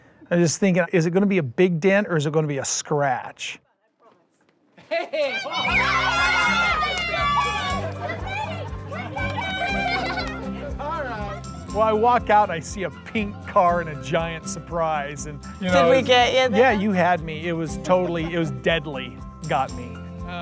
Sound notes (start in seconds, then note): 5.2 screaming